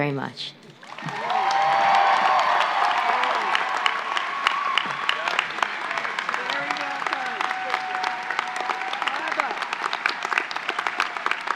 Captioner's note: applause and cheers